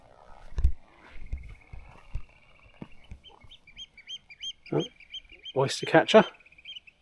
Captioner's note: bird calling